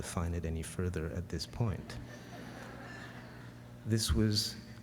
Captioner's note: laughter